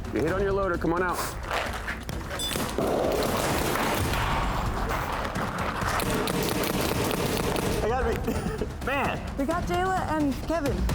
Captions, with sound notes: You hit on your loader. Come on out. [GUNFIRE] - I got to be-- man. - We got Jeyla and Kevin.